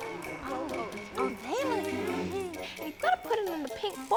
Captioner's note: murmuring